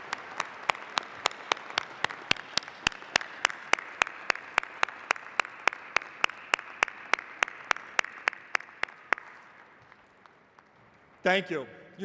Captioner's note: applause